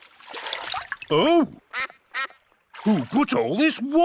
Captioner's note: quacks